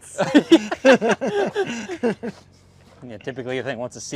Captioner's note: both laugh